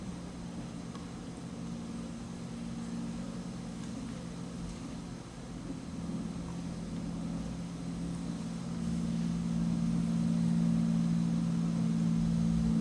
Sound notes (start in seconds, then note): none